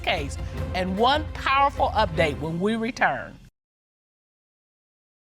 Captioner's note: none